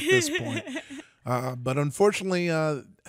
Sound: giggles

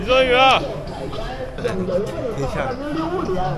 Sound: giggle

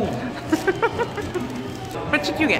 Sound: laughs

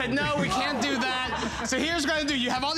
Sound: laughter

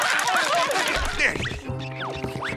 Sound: laughing; grunting

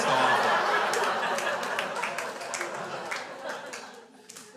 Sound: crowd laughs

